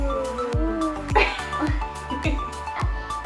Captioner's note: laughing